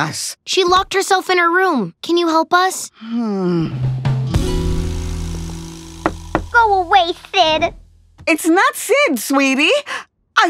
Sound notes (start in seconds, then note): 6.0 knock